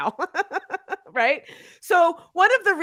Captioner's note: chuckling